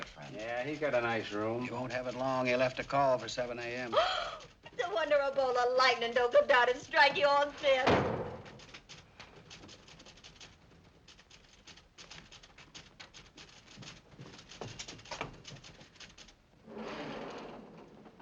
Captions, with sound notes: -Yeah, he's got a nice room. -He won't have it long. He left a call for 7:00 AM. (gasps) It's a wonder a bolt of lightning don't come down and strike you all dead! (trap door slams)